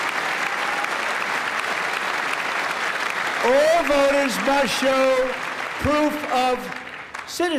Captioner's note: applause